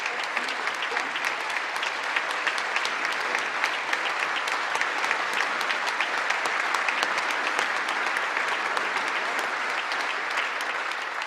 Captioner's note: applause